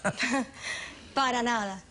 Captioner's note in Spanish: risas